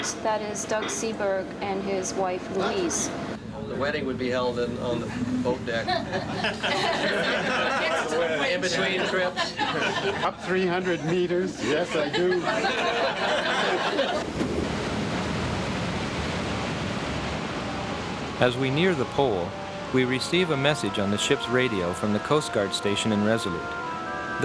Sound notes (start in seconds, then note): 6.2 all laughing; 13.1 all laughing; 13.8 water sloshing